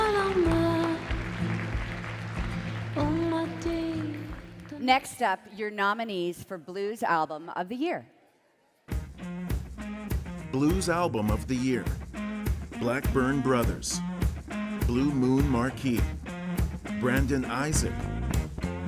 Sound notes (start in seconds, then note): 0.9 speaking French; 3.5 cheering and Applause